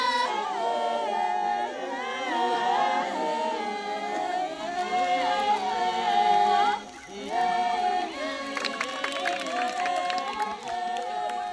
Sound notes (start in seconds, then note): 5.2 fire crackling; 9.3 clapping